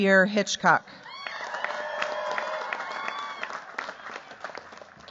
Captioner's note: cheers, applause